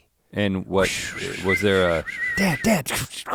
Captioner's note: Link blows air